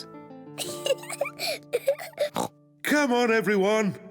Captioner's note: giggles